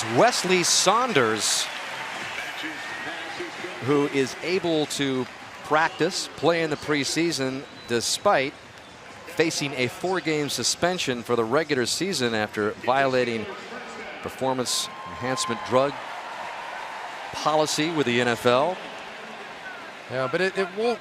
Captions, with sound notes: And that is Weslye Saunders-- [pa announcement] --who is able to practice, play in the preseason, despite facing a four-game suspension for the regular season after violating performance enhancement drug policy with the NFL.